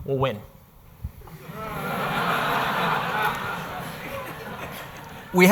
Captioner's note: audience laughing